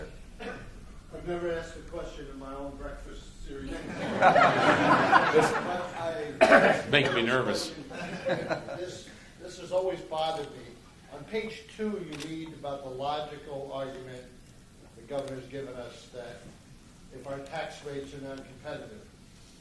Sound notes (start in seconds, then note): 7.8 laughter